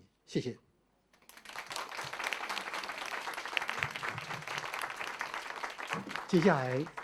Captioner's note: audience applause